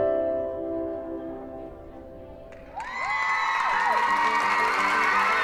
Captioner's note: cheering and applause